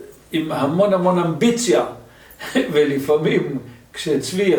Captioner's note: laughter